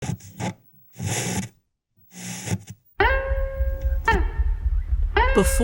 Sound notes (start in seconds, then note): 0.2 TV static; 3.0 acoustic music